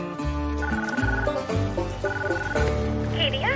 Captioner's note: line ringing